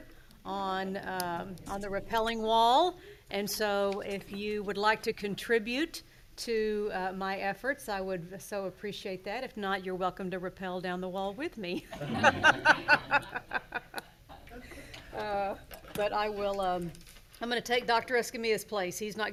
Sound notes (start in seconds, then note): 12.0 laughing